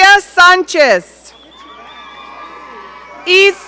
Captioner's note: audience cheering